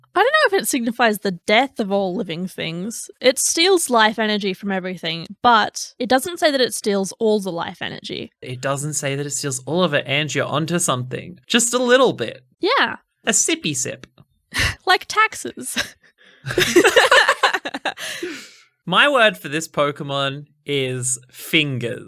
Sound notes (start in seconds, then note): 16.4 laughing